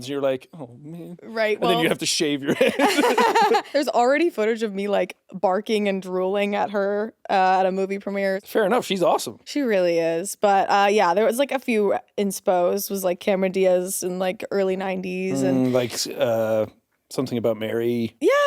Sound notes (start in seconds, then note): 2.5 chuckles